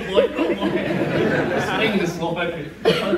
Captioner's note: audience laughs